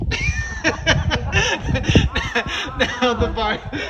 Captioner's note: laughter